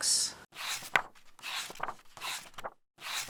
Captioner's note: pages turning